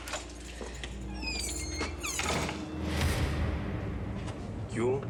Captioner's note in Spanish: ruido en la puerta